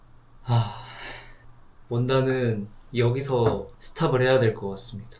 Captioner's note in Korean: 한숨